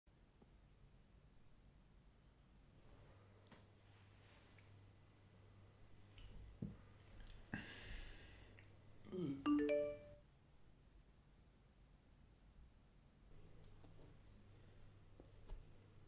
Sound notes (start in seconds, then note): 9.4 phone beeps